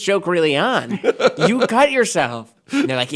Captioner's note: laughing